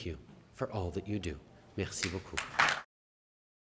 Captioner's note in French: Applaudissements